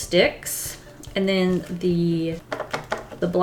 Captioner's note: taps charcoal stick